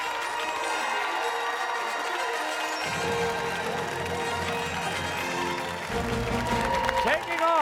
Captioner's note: fanfare playing; cheers and applause